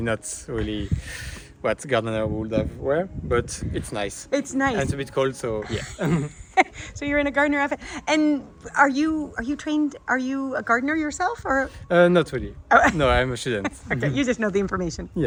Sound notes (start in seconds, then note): 5.6 chuckling